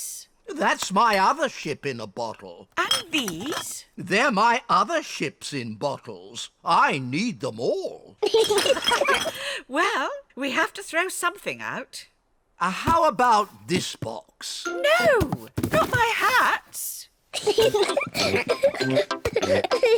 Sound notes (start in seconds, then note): 8.3 all laugh; 17.3 peppa and george giggle